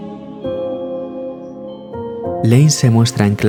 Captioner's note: shouting; school bell